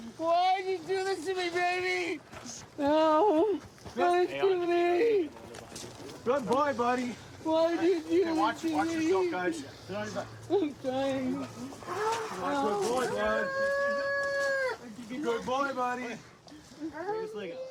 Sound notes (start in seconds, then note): 13.5 wails